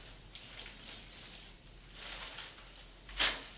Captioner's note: crinkling